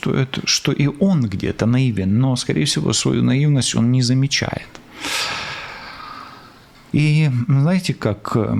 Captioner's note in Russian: вздыхает